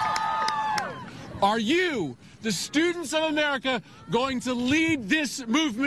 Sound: cheering

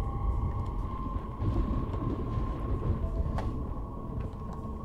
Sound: thunder rumbling

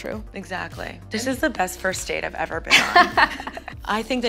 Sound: laughs

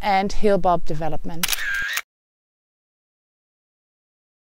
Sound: camera shutter

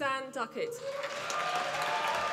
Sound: applause

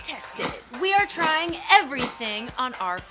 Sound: air whooshes

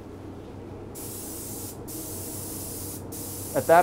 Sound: spray paint sprays

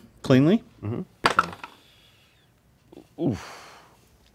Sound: dice clatter

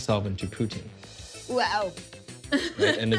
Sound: laughing

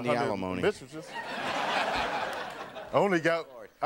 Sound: audience laughing

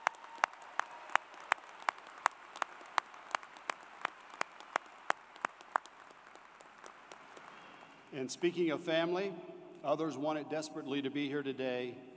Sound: applause

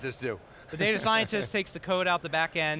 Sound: laughs

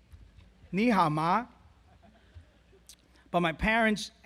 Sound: speaks foreign language

